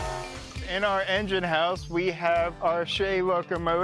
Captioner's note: upbeat music; train engine roaring